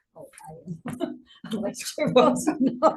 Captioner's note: chuckling